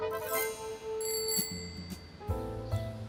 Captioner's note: ring ring